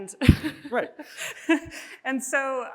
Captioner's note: chuckles